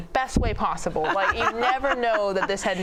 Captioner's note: laughs